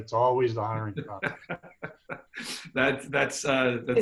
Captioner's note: laughing